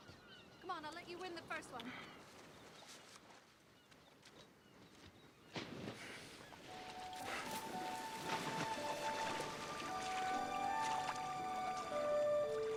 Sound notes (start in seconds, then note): 2.2 footsteps in water; 6.6 splash